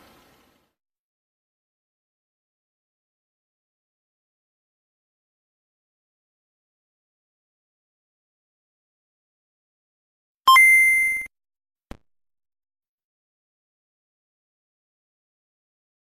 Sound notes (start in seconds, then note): 1.1 silence; 10.5 8-bit video game sounds; 12.8 silence